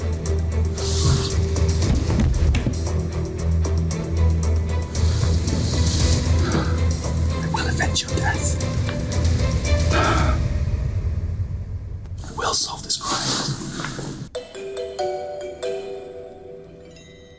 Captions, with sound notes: (whispers) I will avenge your death I will solve this crime.